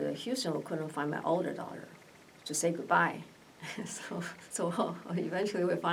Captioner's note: laughs